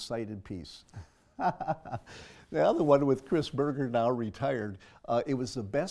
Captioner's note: laugh